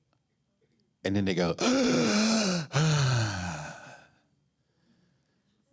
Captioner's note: breathing heavily